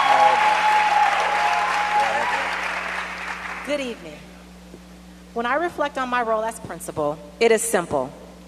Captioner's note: cheers and applause